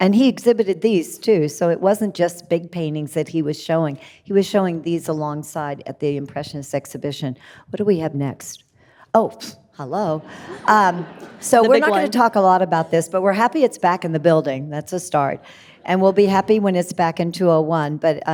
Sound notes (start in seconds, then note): 10.3 audience laughing